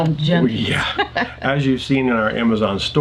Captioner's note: laughing